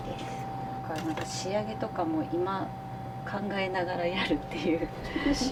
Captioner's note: laughter